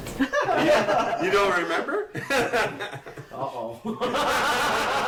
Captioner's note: laughing